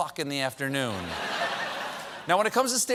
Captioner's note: laughter